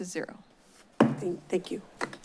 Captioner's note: gavel tap